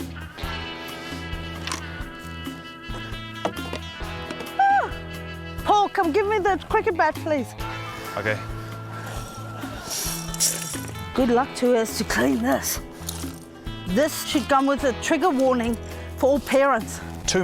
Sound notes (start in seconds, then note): 0.0 dramatic western music; 4.5 yelps